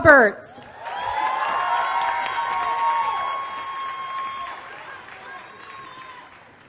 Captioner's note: applause